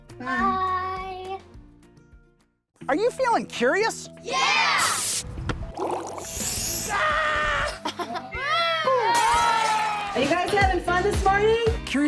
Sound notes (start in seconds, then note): 6.6 screams; 8.4 cheering